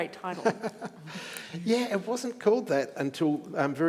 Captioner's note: chuckles